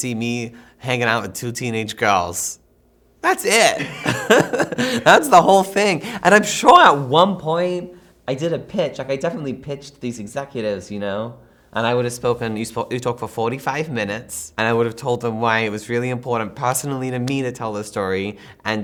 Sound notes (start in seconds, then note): 3.6 chuckles